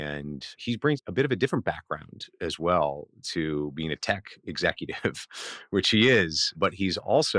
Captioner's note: laughs